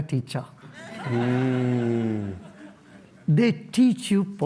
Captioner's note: laughter